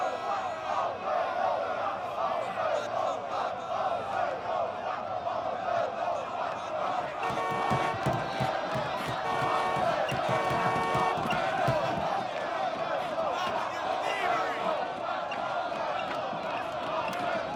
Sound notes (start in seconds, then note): 7.2 car horn honks; 7.6 fists bang